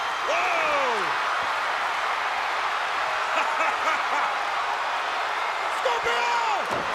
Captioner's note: crowd cheering